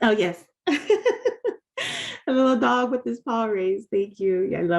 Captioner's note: laughing